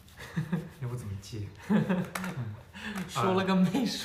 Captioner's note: conversation